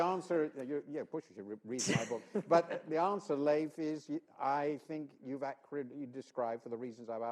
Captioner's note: laughter